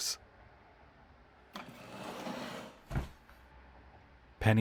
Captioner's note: chair scraping, fabric rustling